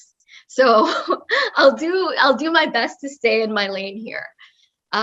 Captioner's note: laugh